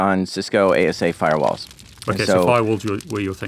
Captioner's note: flames crackling